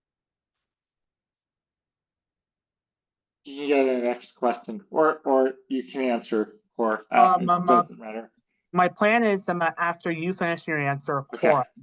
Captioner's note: laughs